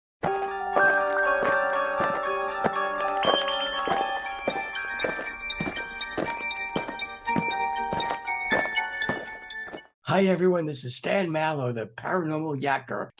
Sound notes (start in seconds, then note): 0.2 eerie music; 5.0 aliens marching